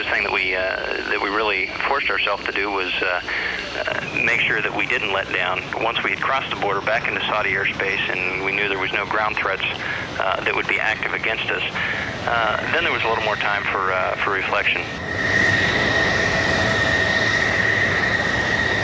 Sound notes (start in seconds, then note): 16.6 plane noise